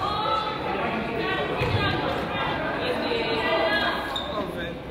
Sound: coach yells

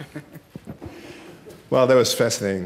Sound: laughter

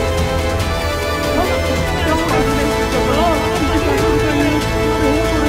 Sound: indistinct chatter

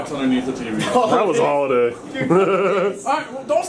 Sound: laughs

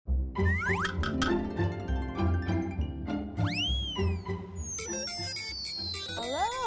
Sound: playful music; slide whistling squeaking

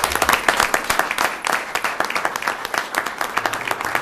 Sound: applause

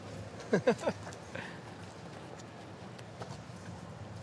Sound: Dawit chuckles

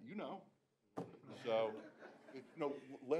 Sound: laughter

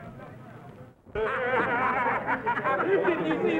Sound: laughing

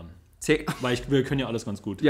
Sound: laughs

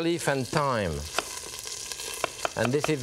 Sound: knife thudding

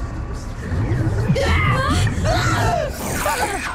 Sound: grunting

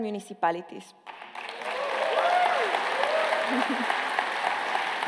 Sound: applause

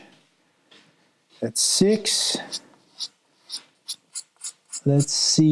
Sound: cue scratching

